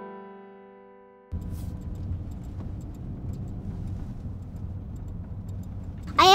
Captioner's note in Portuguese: Barulho de motor de carro